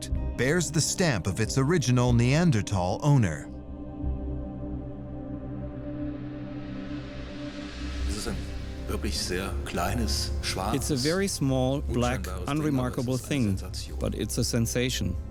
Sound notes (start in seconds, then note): 5.0 suspenseful music; 8.8 speaking in German; 11.0 voice-over